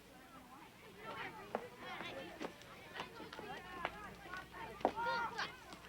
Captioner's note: kids talking and yelling